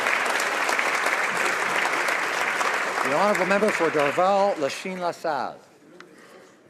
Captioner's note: some Applause